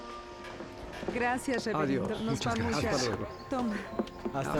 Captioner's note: background chatter